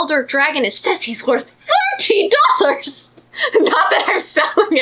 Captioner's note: laughs